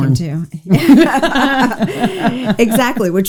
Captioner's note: both laughs